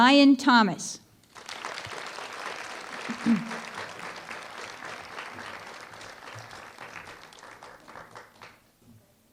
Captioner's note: applause